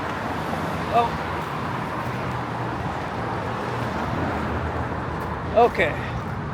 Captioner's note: crossing busy intersection with lots of traffic